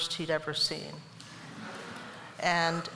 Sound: laughter

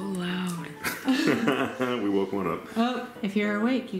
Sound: laughs

